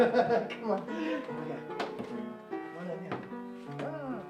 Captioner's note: laughs